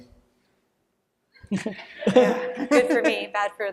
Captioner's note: laughter